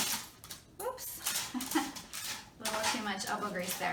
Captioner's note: laughing